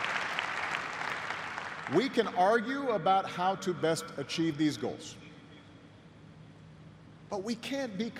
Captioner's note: applause